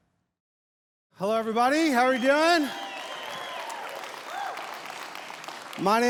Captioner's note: crowd cheers